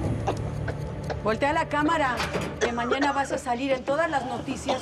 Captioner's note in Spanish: sonido al abrir la puerta